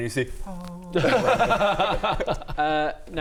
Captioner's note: jealous laugh; heavenly chorus